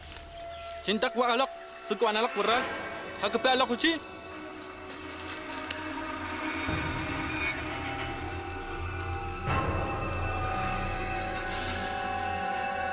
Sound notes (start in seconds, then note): 0.6 speaking Arawak